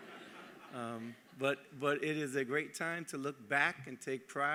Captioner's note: laughter